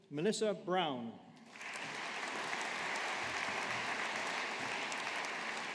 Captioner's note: audience applauding